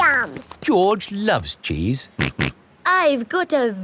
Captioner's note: snorts